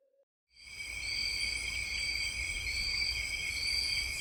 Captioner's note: nature sounds and crickets